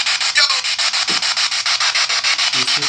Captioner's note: soft thud